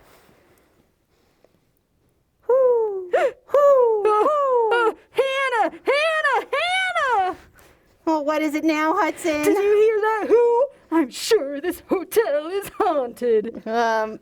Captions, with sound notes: [whooo, whooo, whooo] Woah! Hannah! Hannah! Hannah! Oh what is it now, Hudson? Did you hear that "whoo?" I'm sure this hotel is haunted!